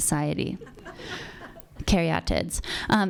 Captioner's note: audience laughing